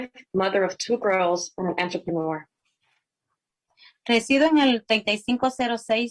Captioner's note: spanish